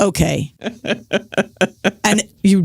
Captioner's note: laughs